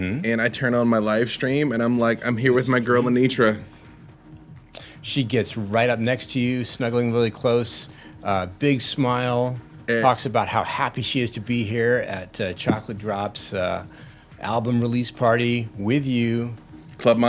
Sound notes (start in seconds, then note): none